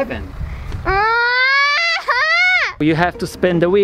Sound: yells and whines

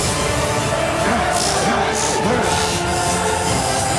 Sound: electricity crackling; electricity zapping; electricity crackling

